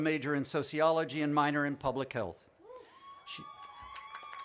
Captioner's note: applause